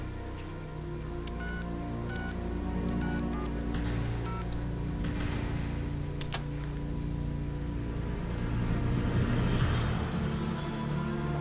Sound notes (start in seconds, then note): 2.0 machinery beeps